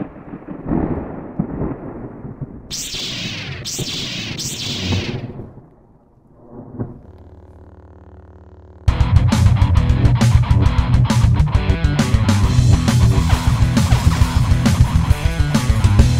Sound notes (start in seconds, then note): 0.0 thunder; 2.7 lightsaber hiss; 8.8 upbeat music